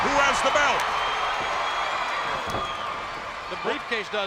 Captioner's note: spectators cheering